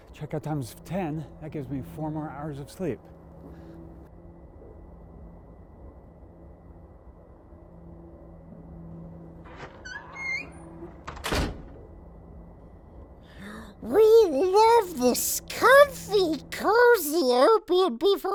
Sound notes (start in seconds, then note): 9.4 door creaks, slams shut; 13.6 Gollum voice